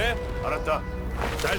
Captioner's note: non-english speech